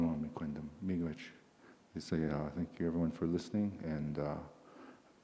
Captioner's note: in English